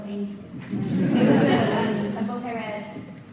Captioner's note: audience laughs